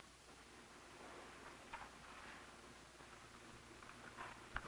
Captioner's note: pages flutter